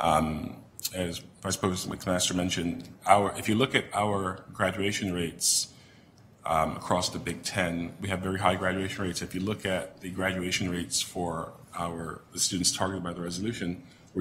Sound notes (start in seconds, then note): none